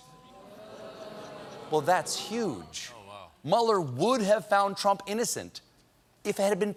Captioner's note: audience reacts